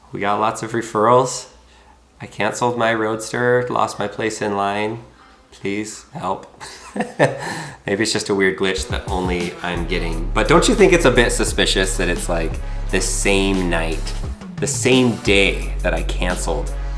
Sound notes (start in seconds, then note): 6.6 chuckling